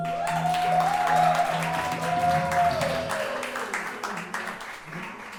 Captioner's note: audience cheering and clapping